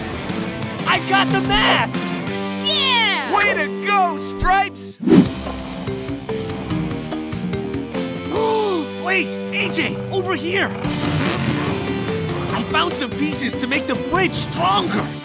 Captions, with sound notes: I got the mast! - Yeah! - Way to go, Stripes! [sniffing] [gasps] Wait, AJ, over here! I found some pieces to make the bridge stronger.